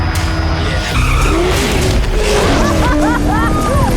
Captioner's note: chopper rumbling; intense music; tires screech; Emelia laughs; cheers